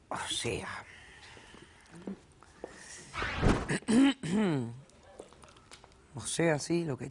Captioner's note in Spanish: Carraspea